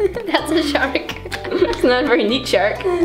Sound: laughs

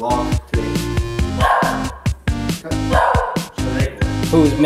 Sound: Teddy barks

